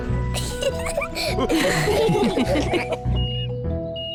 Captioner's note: all laugh; crane beeping